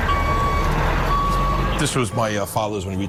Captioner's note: sirens